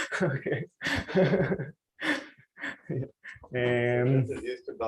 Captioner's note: laughs